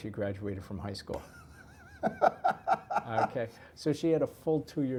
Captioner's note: laugh